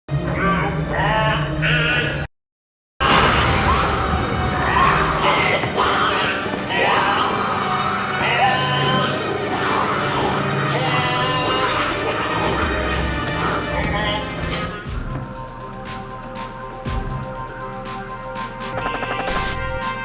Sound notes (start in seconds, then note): 2.2 snake hissing; 11.8 snake hissing; 18.3 gun firing